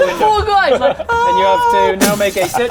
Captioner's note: boof